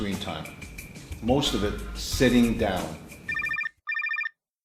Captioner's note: phone rings